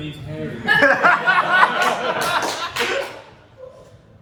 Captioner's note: laughter